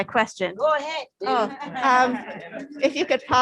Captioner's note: laughter